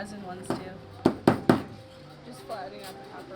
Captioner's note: banging